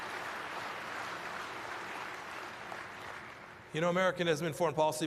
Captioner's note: applause